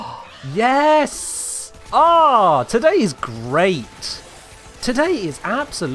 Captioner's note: gasp